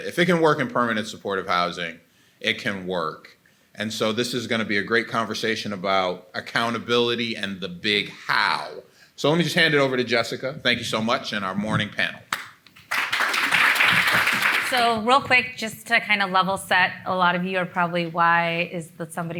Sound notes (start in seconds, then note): 12.3 everybody clapping